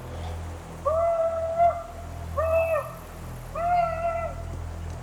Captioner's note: commanche yells